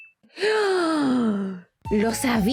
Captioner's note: gasp